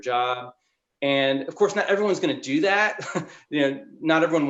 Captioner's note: chuckles